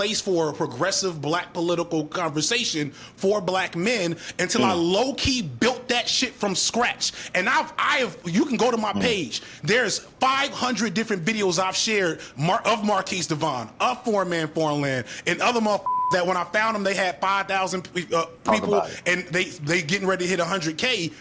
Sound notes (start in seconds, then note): 15.8 beep